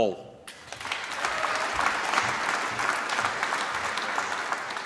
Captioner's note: applause